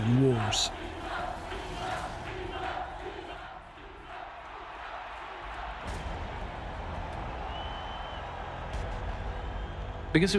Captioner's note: crowd chanting "caesar"